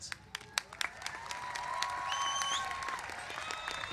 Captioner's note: applause